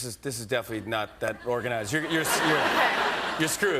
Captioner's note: laughter